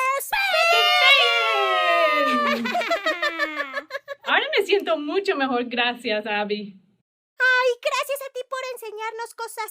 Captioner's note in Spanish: Aplausos